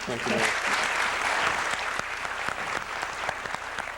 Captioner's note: audience applauds